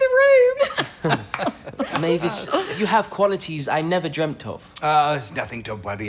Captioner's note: laughter